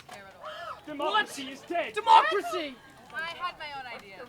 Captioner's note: gasps